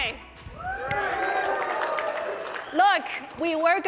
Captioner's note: audience cheering